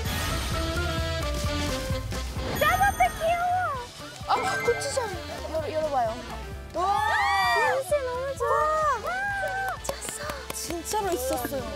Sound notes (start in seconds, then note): 8.0 touched applause